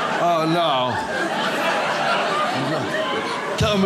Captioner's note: audience laughs